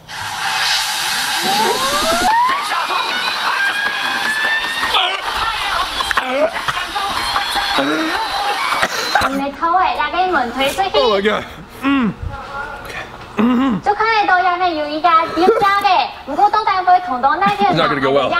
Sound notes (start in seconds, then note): 0.8 buzzing; 5.1 laughing; 9.6 speaking foreign language; 14.1 speaking foreign language